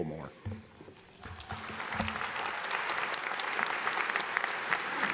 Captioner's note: audience applauds